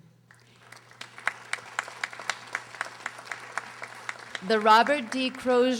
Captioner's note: audience applauding